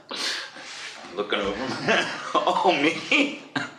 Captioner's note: laughs